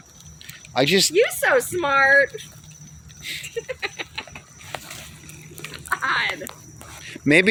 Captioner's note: laughing